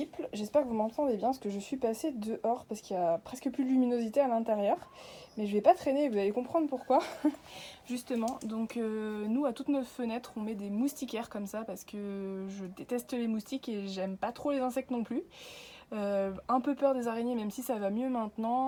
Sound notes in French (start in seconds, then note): 6.8 rire